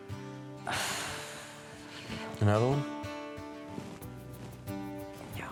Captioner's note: exhales